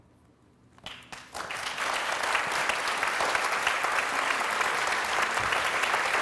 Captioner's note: applause